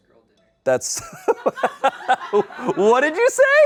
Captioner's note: audience laughing